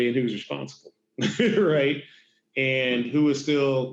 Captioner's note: laughs